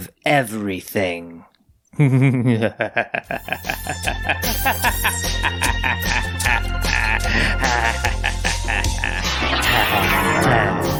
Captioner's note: creepy laugh that goes on a little too long